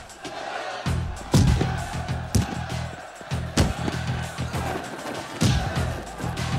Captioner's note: crowd cheering; thuds